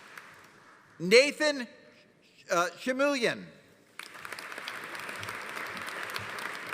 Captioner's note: audience applauding